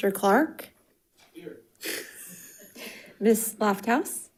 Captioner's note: light chuckling